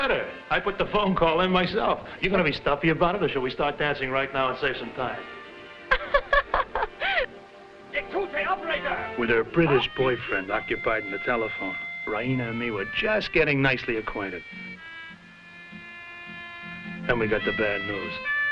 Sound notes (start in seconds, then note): 5.8 Raina laughing; 7.6 speaking foreign language